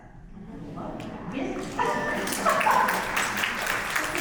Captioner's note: audience applauds; laughs